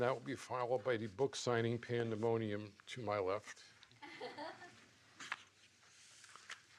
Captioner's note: laughs